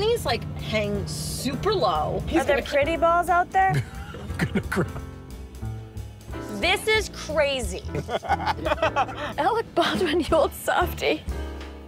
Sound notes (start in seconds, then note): 7.9 laughter; 11.6 jazz music